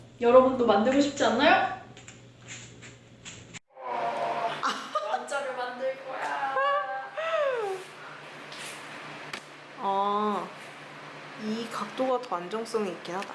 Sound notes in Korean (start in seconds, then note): 7.7 웃음